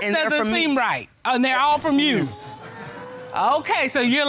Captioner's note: audience exclaims